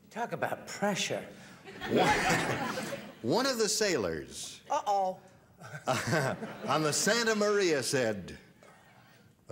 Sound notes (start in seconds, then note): 1.7 laughter; 5.7 laughter; 9.3 in a modulated voice